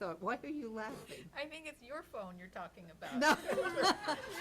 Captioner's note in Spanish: risas